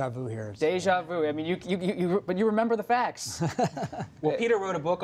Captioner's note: laughter